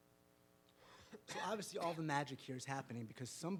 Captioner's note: coughs